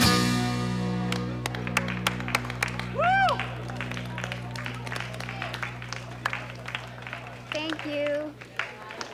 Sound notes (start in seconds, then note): 2.1 clapping; 4.6 weak clapping